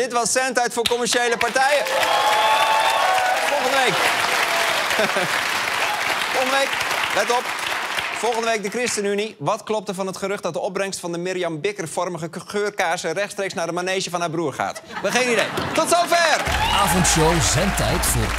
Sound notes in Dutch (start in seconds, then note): 2.6 applaus en gejuich